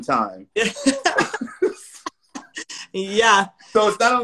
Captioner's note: laughing